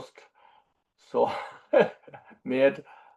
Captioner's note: laughs